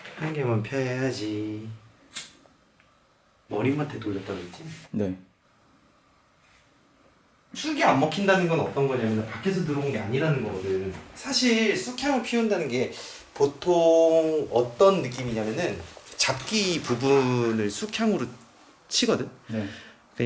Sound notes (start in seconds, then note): 2.0 the sound of lighting the lighter